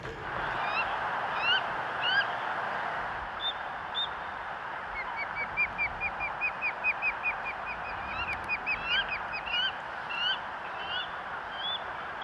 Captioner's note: seagulls; laughing; birds